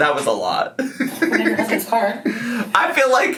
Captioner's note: laughs